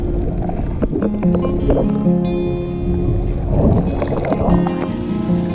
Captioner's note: soothing guitar music; air bubbling underwater